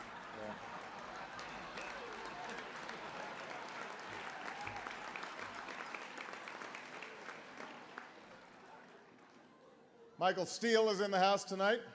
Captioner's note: laughter, applause